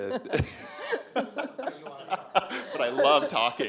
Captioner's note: laughs